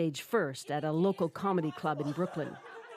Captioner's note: laughter